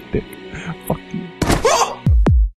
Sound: gasp

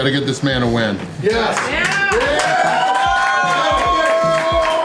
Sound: crowd; crowd cheering

